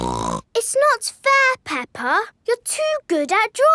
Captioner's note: snorts